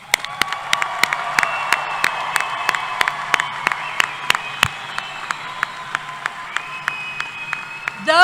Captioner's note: applause